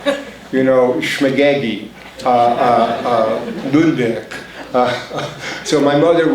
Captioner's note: foreign language spoken